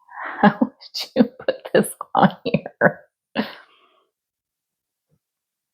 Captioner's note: giggling